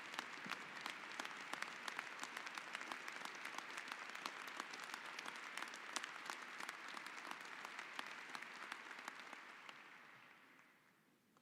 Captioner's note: applause